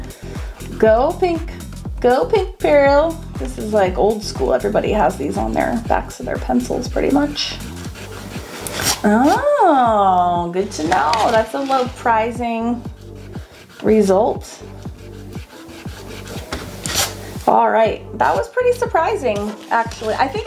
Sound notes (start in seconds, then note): 8.3 palm rubbing; 14.6 eraser rubbing; 17.1 palm rubs